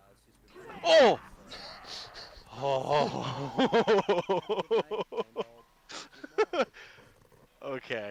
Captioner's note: nervous laughter